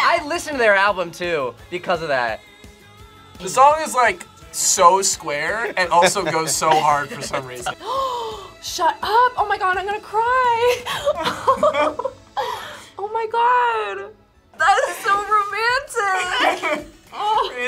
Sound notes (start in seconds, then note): 7.7 gasps; 10.6 laughs